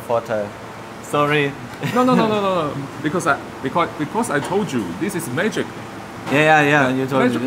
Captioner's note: laughs